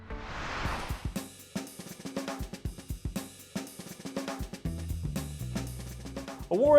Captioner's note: screen whooshing; light music